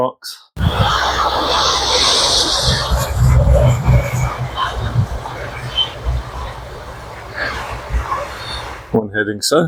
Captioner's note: train sound